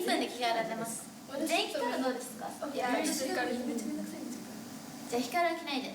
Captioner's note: speaking Japanese